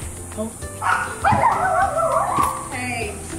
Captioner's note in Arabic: صرير الباب; الكلاب تنبح